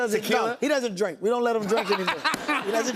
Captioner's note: laughter